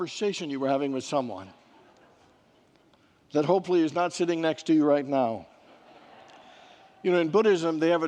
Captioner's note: congregants laugh